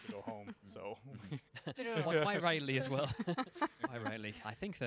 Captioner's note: laughing